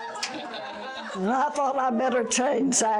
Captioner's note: audience laughter